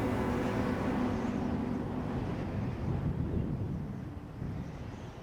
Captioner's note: gently blowing wind